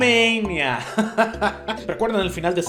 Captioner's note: disappointed chuckle